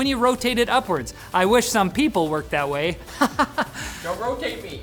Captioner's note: laughs